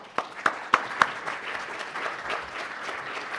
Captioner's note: applause